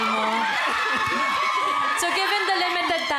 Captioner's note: giggling